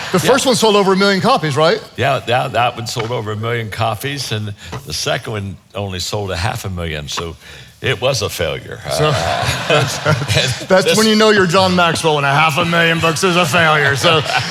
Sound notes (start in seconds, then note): 8.8 audience chuckles